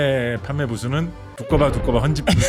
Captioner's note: comical sound effect